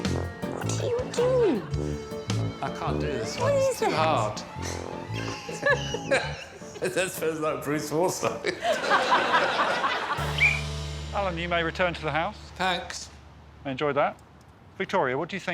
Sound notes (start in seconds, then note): 8.4 all laughing; 10.2 whistle blows